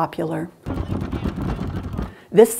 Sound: pounding fists

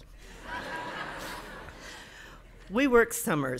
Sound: audience laughing

